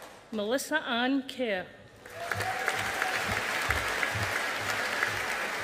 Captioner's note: audience applauding